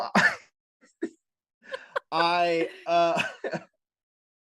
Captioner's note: laughter